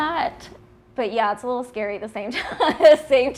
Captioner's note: laughing